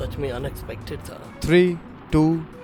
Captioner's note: whooshing